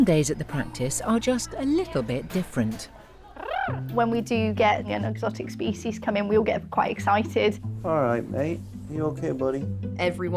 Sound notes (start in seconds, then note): 3.3 tongue trills